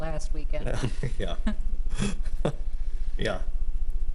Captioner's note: everyone chuckling